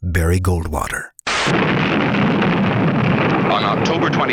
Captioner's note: nuclear blast